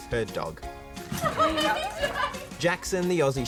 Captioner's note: woman cries